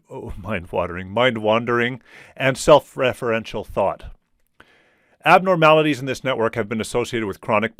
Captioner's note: chuckles